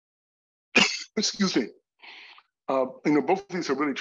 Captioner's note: coughs